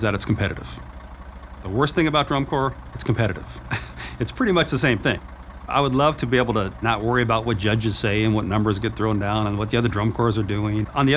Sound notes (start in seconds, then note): 3.4 chuckles